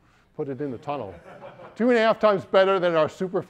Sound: audience members laughing

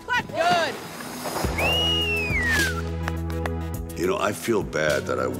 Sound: whistles

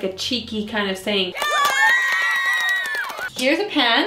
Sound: cheering

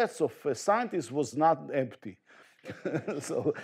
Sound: chuckles

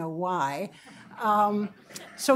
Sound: chuckling

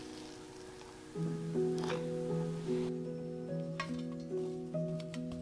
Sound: peanut butter releases from jar

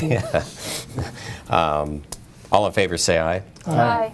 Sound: laughter

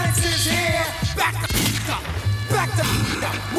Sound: gunshot resonating

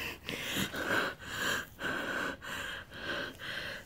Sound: woman pants

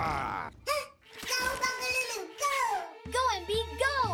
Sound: gasping

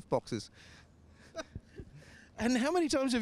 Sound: laughs

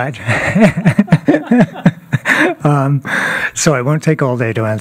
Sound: laughter

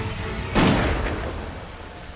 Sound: gunshot

